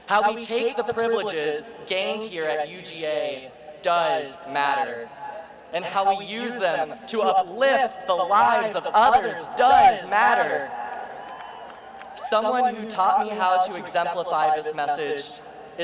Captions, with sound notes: How we take the privileges gained here at UGA does matter. And how we use them to uplift the lives of others does matter. (cheering) Someone who taught me how to exemplify this message